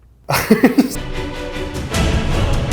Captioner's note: laughs